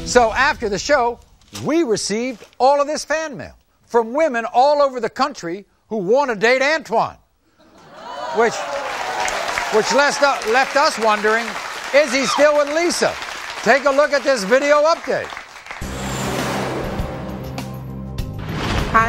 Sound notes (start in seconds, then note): 7.4 audience applauding; 15.7 upbeat music